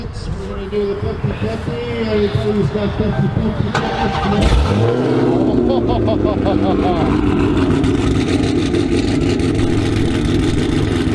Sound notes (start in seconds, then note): 7.6 exhaust noises